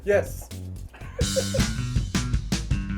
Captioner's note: all laughing; upbeat music